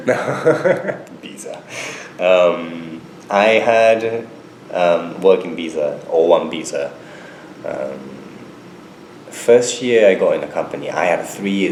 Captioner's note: laughs